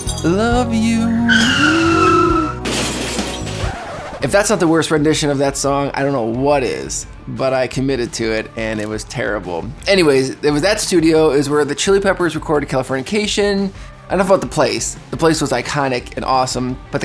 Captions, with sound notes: (cars crashing) If that's not the worst rendition of that song, I don't know what is, but I committed to it, and it was terrible. Anyways, it was that studio is where The Chili Peppers recorded Californication. Enough about the place. The place was iconic and awesome,